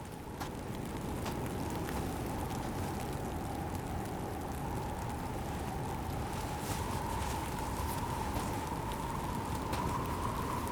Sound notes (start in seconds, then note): 0.2 footsteps thudding; 3.1 wind whooshing